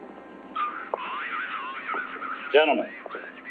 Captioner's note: man on radio